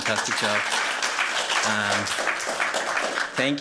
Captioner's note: applause